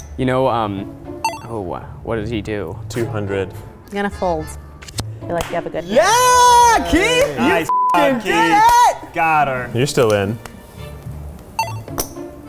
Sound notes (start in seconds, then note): 7.7 beep